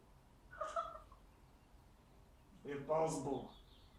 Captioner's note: Cathy laughing